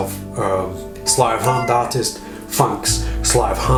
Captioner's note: cat meows